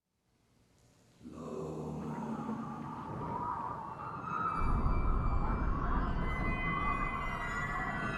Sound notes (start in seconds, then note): 1.3 gentle eerie music; 2.6 wind whistles